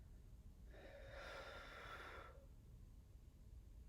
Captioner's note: blows air